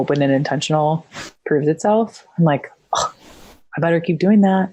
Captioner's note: scoffs